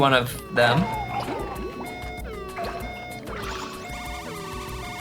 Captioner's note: siren whooping